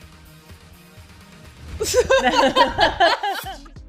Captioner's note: laughing